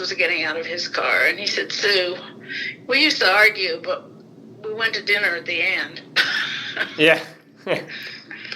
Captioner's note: laughs